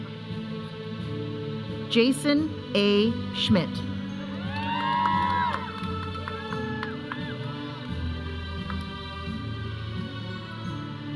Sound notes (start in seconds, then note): 4.4 audience cheering; 8.0 processional music